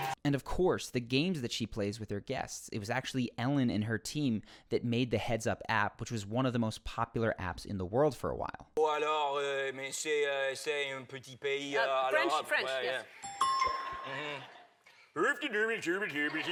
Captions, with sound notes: And of course, the games that she plays with her guests. It was actually Ellen and her team that made the Heads Up app which was one of the most popular apps in the world for a while. (gibberish French) French. Yeah, yeah. (gibberish Swedish)